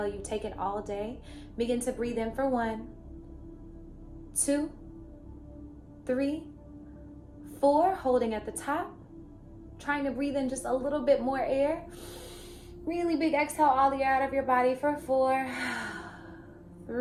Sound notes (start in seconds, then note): 12.0 inhales; 15.5 exhales